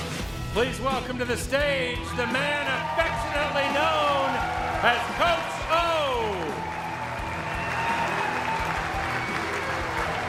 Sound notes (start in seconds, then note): 0.1 dramatic music; 4.0 audience cheers; 7.0 audience applauds